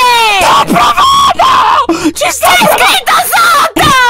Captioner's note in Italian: urlando